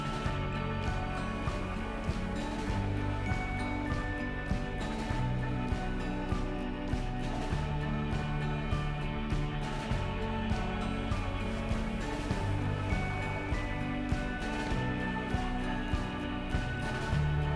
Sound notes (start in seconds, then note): 6.3 high sound and sea sound